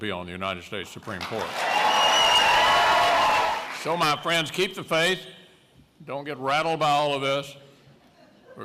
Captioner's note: cheers, applause